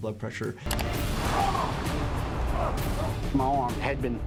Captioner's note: man shouting